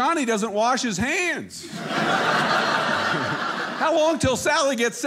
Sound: audience laughing

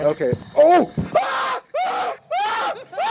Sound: screaming

